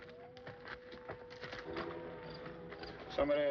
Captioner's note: siren wailing in distance